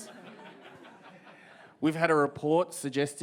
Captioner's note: audience laughs